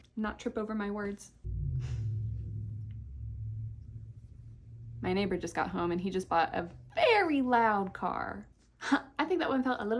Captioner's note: car engine